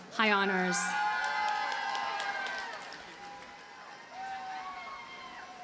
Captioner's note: audience cheers and applauds